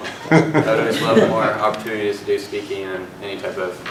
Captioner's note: laugh